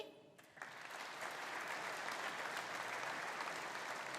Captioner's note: audience applauding